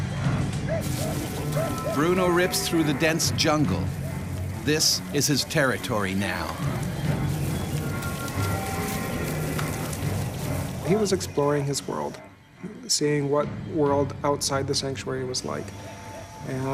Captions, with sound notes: - [Voiceover] Bruno rips through the dense jungle, this is his territory now. - He was exploring his world. Seeing what world outside the sanctuary was like.